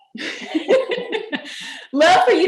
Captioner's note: laughter